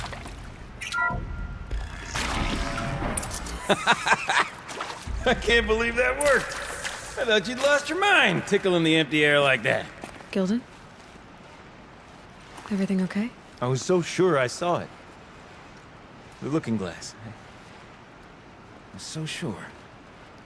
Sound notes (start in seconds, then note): 3.5 laughs